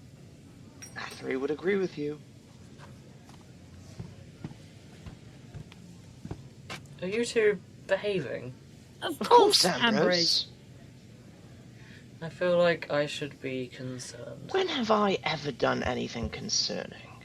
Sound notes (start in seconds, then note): 0.6 door jingles open; 3.2 footsteps as ambrose enters